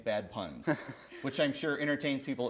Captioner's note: chuckle